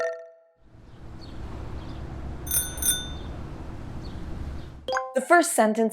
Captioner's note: street noise, bell ringing